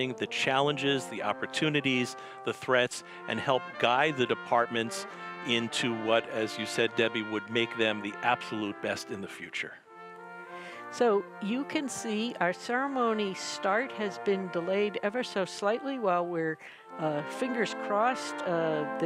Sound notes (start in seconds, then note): none